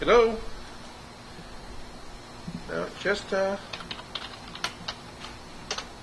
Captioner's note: key tapping